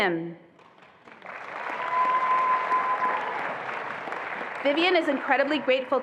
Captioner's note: attendees applauding and cheering